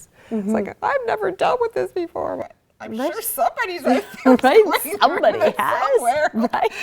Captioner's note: laughter